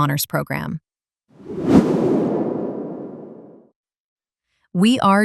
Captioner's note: screen whooshing